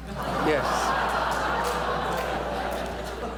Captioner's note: laughter